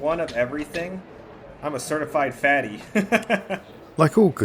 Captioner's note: laughs